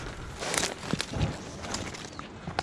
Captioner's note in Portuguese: Sons estranhos de pancadas